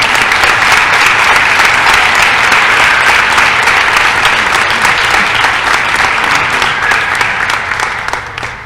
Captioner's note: applause